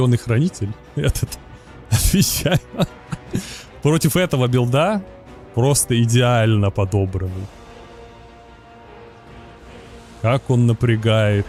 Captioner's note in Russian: смех